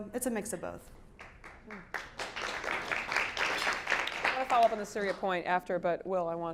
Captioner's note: applause